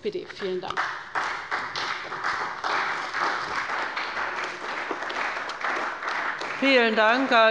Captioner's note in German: Beifall bei der CDU